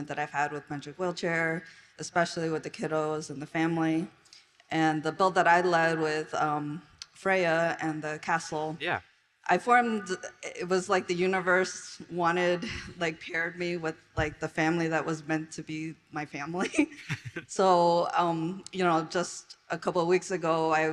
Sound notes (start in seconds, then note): 16.9 all chuckle